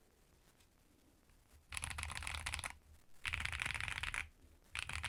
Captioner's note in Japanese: 打鍵音チェック中